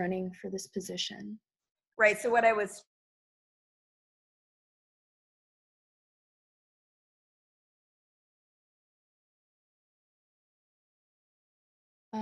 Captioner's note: audio cut off